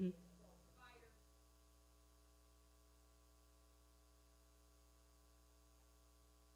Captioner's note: speaking away from mic